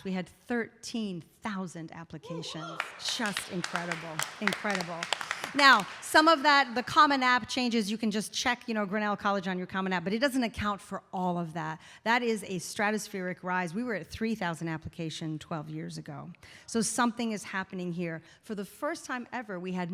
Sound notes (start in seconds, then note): 4.5 audience applauding